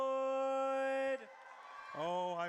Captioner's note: audience cheers